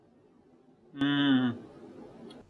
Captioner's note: yummy noises